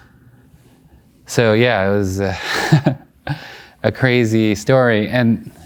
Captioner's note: laughing